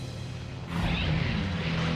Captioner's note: engine roaring